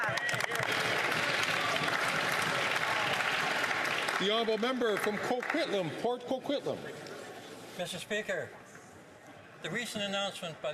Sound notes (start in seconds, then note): 2.7 some Applause